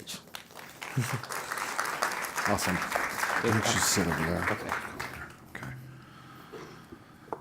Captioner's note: applause